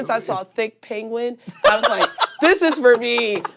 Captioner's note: laughing hysterically